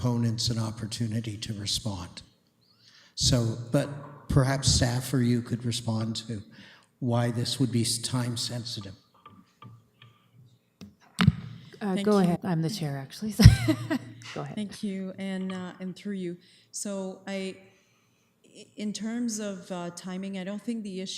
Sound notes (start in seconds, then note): 13.4 laughs